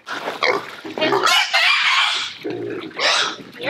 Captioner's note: pig squeals